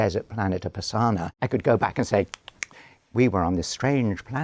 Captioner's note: clicks